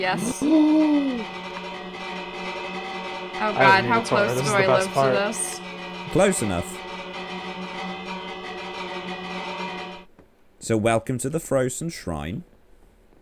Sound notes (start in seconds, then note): 6.0 bell noises continue